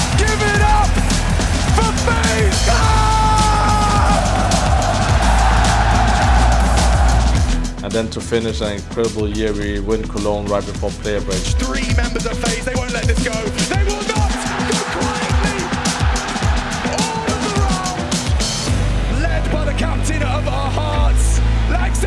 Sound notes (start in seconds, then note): 4.4 audience cheering; 15.7 crowd cheering